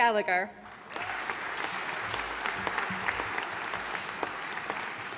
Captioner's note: audience applauding